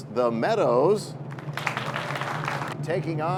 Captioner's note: cheers and applause